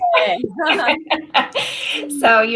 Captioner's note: laughter